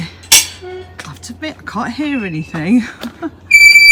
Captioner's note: squeaky gate!